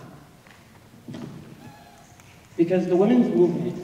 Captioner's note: snapping